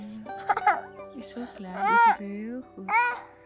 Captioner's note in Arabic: يضحك